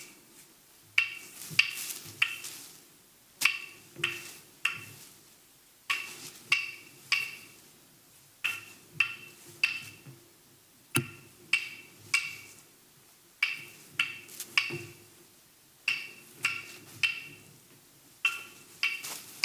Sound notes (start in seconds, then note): 3.3 leaves rustling; 3.4 sticks banging